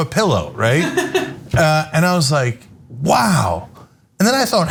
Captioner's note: laugh